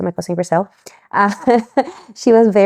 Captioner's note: laughs